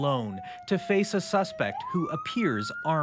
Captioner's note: sirens